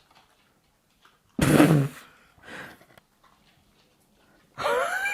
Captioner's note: laughing